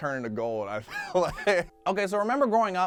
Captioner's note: laughs